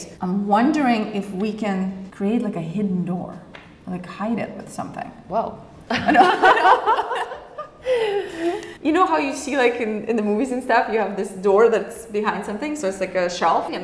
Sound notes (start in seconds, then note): 5.9 both laugh